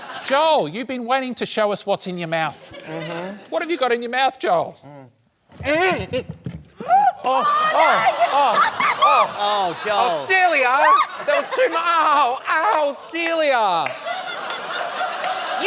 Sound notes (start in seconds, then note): 5.6 grunts; 7.3 laughter; 13.6 laughter